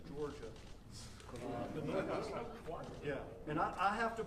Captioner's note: audience chuckling